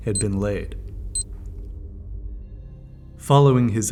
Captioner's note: ticker beeping